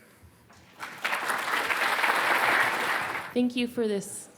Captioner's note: audience clapping